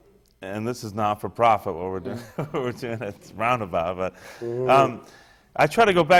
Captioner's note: laughs